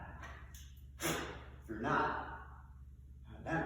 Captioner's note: blows